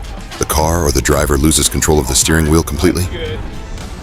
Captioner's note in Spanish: Neumáticos chirriando